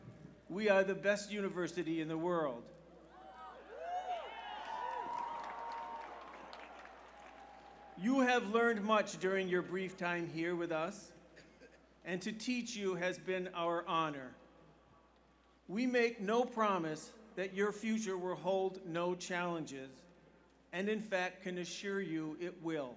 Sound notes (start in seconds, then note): 6.4 cheers